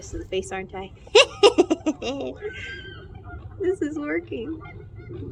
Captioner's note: laughs